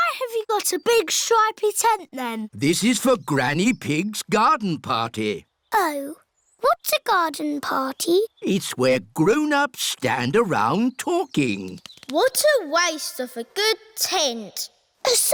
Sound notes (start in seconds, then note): none